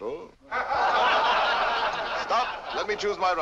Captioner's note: laughter